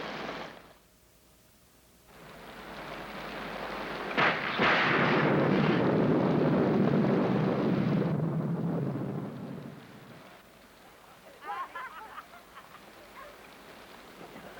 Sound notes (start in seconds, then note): 4.0 thunder crashes; 10.8 children laughing and playing